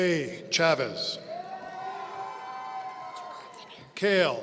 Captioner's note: audience cheering